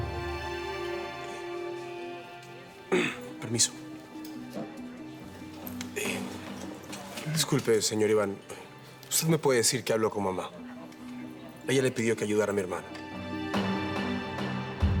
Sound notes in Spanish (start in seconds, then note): 2.9 Carraspea